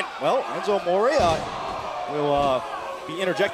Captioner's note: crowd chatter